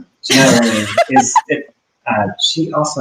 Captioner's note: laughing